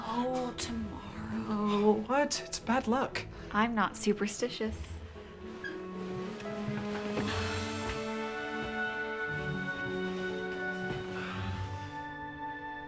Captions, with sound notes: - Oh, tomorrow. - What, it's bad luck. - I'm not superstitious. (bright pleasant music) (bedding shuffles)